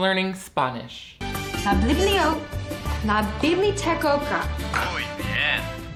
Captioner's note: Emily speaks Spanish; computer speaks Spanish